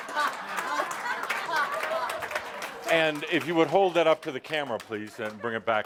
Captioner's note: laughter